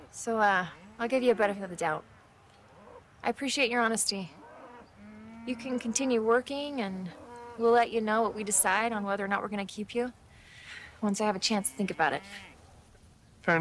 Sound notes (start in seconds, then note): none